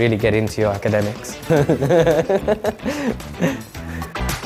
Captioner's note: laughter